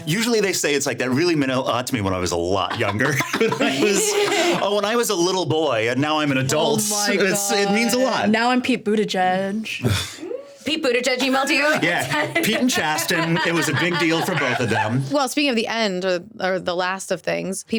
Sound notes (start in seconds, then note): 2.6 everyone laughing; 9.8 sighing